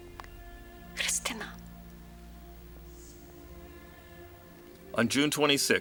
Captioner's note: speaking in foreign language